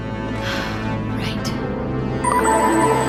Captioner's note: sigh